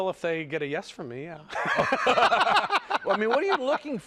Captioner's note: laughter